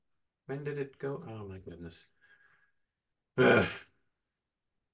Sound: grunts

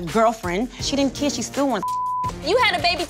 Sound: beep

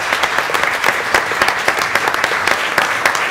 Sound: applause

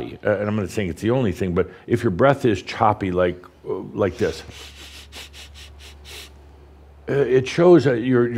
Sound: Adamus demonstrates choppy breathing

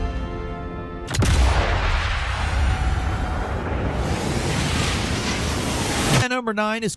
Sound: gunshot booms; wind whooshes

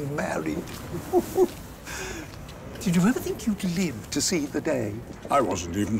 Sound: chortles

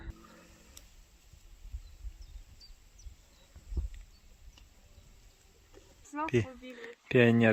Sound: birds singing

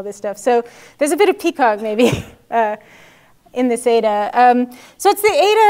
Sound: laugh

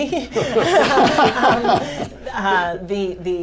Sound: laughter

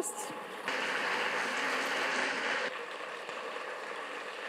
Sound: audience applauds

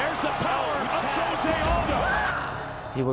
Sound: yelling

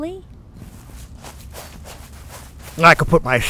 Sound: footsteps falling

